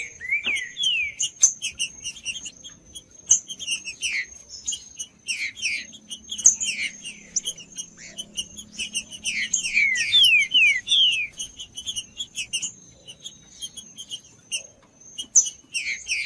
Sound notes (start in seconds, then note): 0.7 trinca ferro cantando; 5.3 trinca ferro cantando; 7.3 trinca ferro cantando; 9.3 trinca ferro cantando; 11.3 trinca ferro cantando; 13.3 trinca ferro cantando; 15.3 trinca ferro cantando